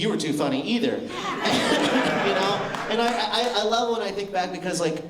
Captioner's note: laughter